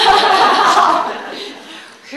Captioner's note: laughter